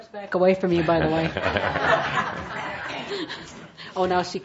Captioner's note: laughter